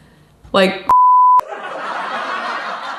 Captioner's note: beep; audience laughs